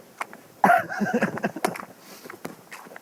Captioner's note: laughing